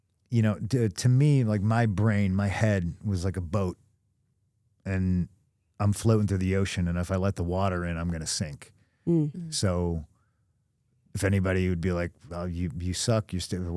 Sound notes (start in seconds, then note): none